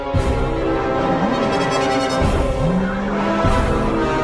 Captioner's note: car engine revs up outside